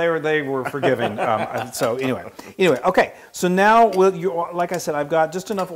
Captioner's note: laugh